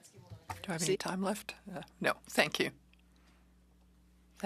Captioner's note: speaking in French